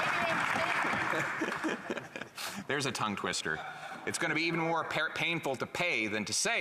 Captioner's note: some Applause